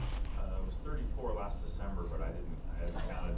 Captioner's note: laughter